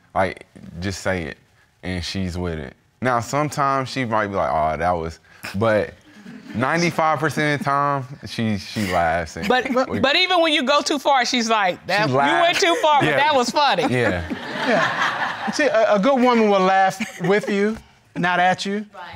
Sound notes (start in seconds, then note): 5.8 audience chuckling; 13.3 audience laughing